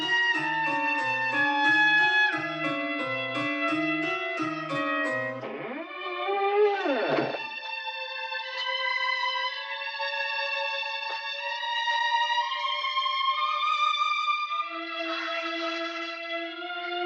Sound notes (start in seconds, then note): 5.3 door creaking